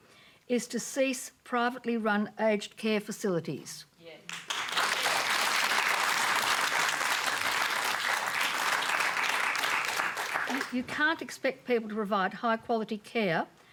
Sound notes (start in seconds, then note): 4.2 applause